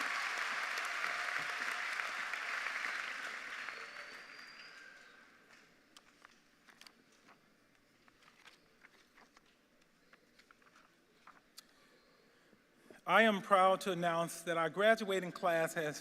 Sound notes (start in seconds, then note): 4.4 cheers and applause